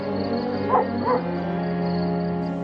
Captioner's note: dog barking